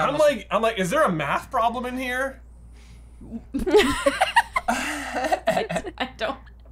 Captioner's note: laughter